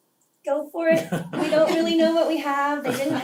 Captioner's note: laugh